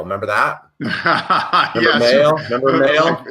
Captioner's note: laughs